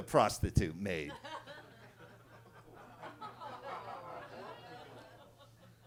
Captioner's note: attendees laughing